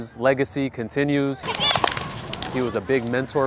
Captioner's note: kids clapping hands, chanting